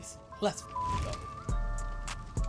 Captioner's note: beep